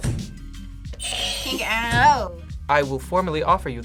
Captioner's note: buzzer rings